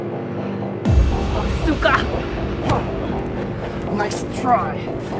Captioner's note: suspenseful music; Nancy speaks Russian